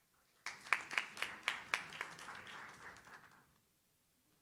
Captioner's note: audience claps